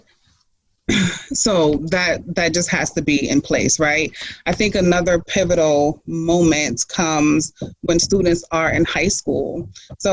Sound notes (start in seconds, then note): 1.1 clears throat